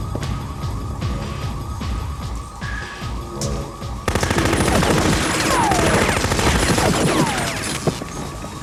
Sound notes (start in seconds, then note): 0.0 dramatic music; 0.6 alarm wailing; 4.0 machine gun firing